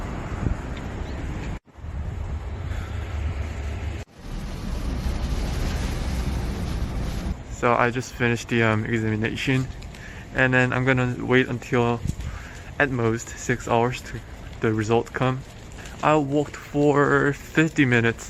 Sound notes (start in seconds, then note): 0.1 car sounds; 3.9 bus sounds